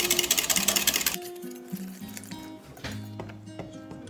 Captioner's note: whisk